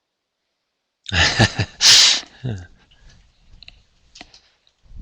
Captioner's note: laughs